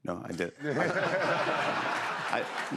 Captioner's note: laughter